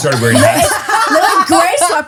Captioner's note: laughing